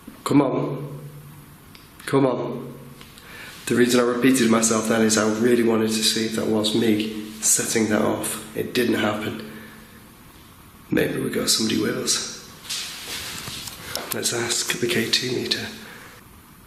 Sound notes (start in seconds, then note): none